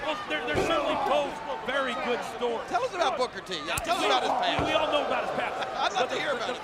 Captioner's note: none